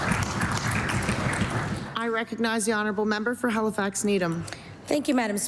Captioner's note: applause